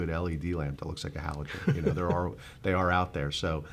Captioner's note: chuckling